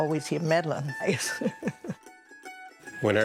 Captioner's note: laughs